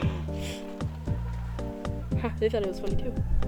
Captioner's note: distant laughter